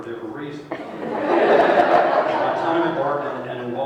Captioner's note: laughter